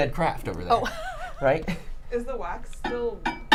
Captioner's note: Saf laughs